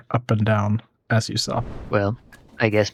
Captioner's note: whooshing